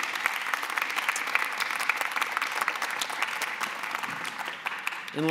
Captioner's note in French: Applaudissements